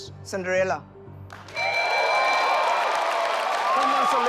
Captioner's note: audience cheers; bell rings; contestants chattering